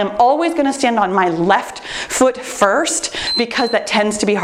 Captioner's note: timer beeps